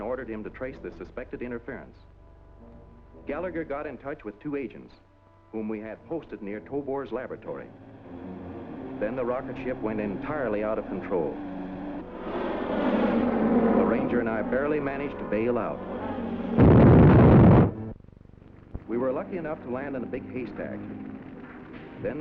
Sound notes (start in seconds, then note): 12.6 plane soaring; 16.5 explosion